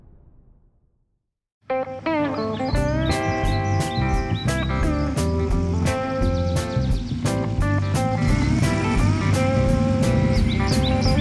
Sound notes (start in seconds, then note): 1.7 country music; 2.0 birds chirping